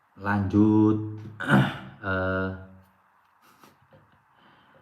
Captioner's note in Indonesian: berdehem